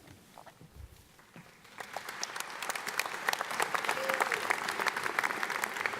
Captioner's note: audience applauding